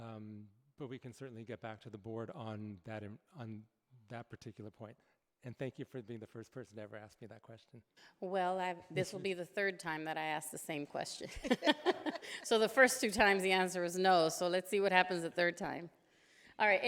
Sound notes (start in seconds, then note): 11.4 laughing